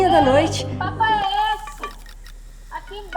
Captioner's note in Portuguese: voz feminina